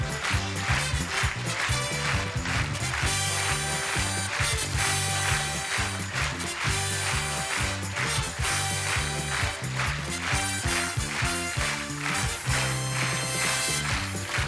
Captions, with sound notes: Plastic puffs clean casseroles and no stick surfaces without scratching. Chore Boy plastic puffs, more scour to you. [upbeat music] [applause]